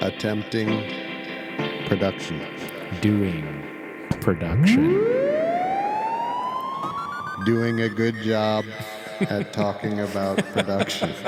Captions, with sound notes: Attempting production. Doing production. (siren blaring) Doing a good job at talking about production.